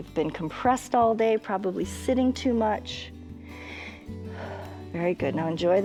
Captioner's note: inhales and exhales